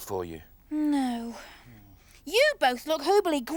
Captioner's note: sighs